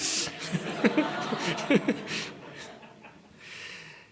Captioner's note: laughter